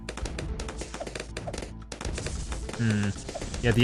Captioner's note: weapons firing